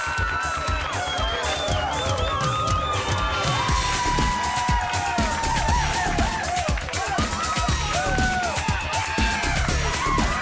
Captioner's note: crowd cheering